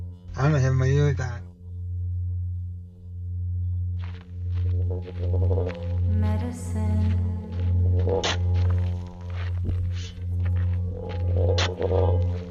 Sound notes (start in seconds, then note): 4.0 footsteps in sand; 6.1 singing; 8.9 digging